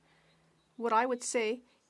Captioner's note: speaking French